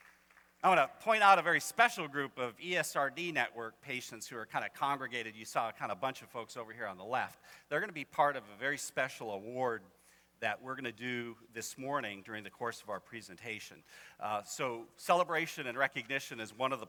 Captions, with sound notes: [applause continues] I wanna point out a very special group of ESRD network patients who are kinda congregated. You saw a kind of bunch of folks over here on the left. They're gonna be part of a very special award that we're gonna do this morning during the course of our presentation. So, celebration and recognition is one of the